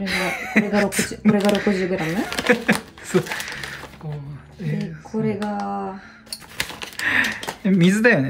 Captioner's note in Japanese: 笑い